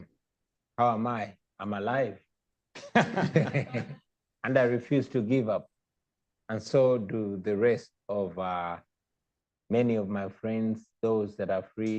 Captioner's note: laughter